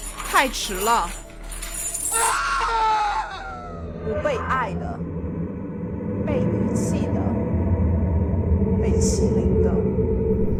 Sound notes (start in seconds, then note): 0.0 chains rattling; 0.9 Mandarin language; 2.1 Lee’s terrified scream; 4.7 Mandarin language; 7.1 Mandarin language; 9.5 Mandarin language